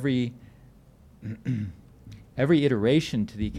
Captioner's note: clearing throat